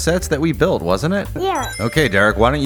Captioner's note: Sonic Ring Chime